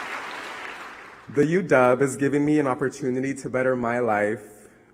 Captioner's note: applause